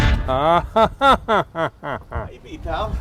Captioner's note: laughing